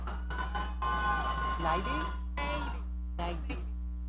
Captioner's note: audience cheering